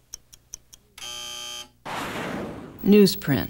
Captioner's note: buzzer